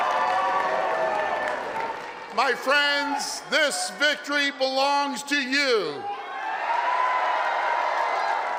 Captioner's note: applause and cheering